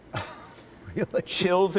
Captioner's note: laughter